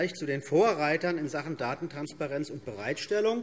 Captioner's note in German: none